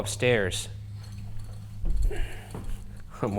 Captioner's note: equipment clattering; footsteps clomping; panting; chuckles